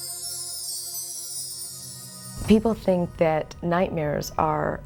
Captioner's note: bells chiming